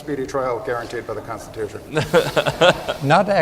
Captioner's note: laughter